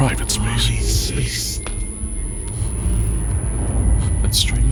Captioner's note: heartbeat sound